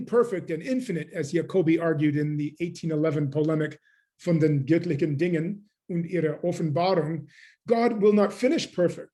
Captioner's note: german